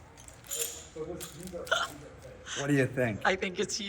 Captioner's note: metal clanking